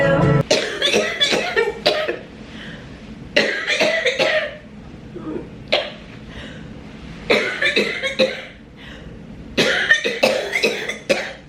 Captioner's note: coughing